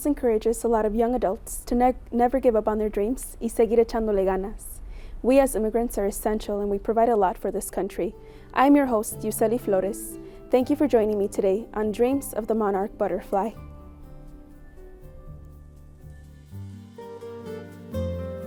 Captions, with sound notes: I hope this encourages a lot of young adults to never give up on their dreams. (speaking in Spanish) We as immigrants are essential and we provide a lot for this country. I'm your host, Iuscely Flores. Thank you for joining me today on "Dreams of the Monarch Butterfly."